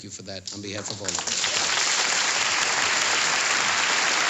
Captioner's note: applause